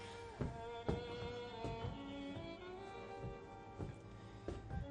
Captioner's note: footsteps pacing; somber music continues